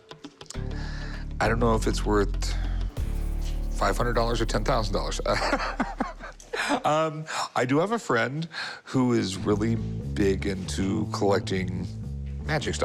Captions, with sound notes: I don't know if it's worth $500 or $10,000. [chuckles] I do have a friend who is really big into collecting magic stuff.